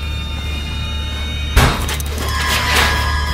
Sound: loud noise behind them

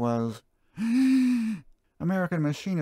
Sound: deep breath

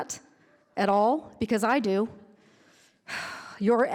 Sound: sighs

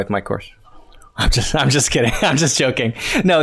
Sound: chuckles

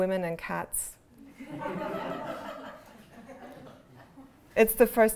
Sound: laughter

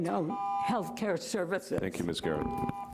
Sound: buzzer rings

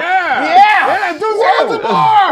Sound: yelling; shouting and laughing; singing

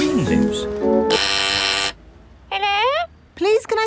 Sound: doorbell ringing; over intercom

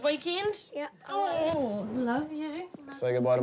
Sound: strains

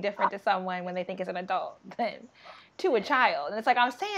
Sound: laughing

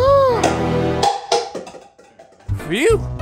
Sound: gasping; clattering

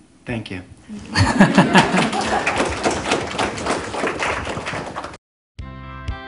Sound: laughter/Audience Applause

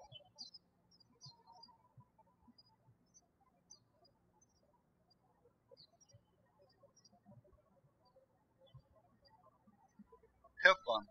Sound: birds chirping

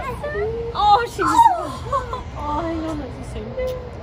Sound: both cooing

